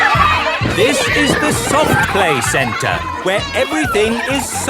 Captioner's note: loudly over shouting